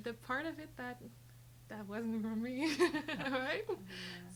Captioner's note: laughs